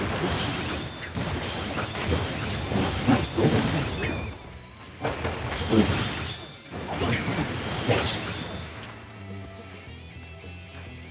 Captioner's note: explosions